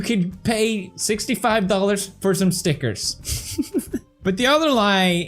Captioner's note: giggles